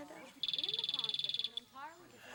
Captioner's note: ringing